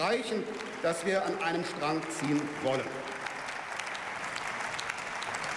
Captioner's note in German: Beifall